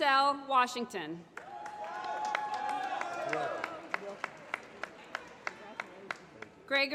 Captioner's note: applause